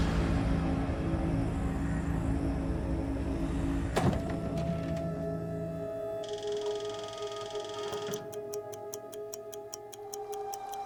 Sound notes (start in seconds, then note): 0.1 brooding music; 4.1 machine clanking and whirring; 6.3 clock whirring and ticking